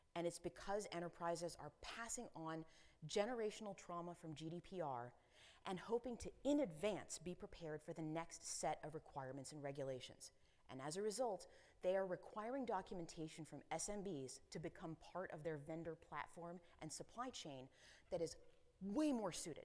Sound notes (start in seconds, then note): none